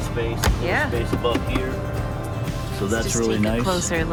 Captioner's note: hand pats